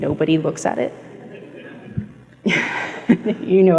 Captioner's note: chuckles